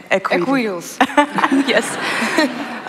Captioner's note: laughter